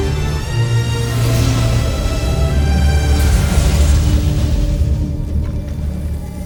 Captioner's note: epic music playing; sparkling whoosh; music swells